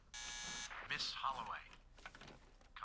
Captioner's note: buzzer